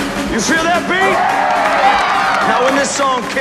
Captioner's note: crowd cheering